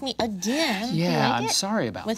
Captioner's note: sighing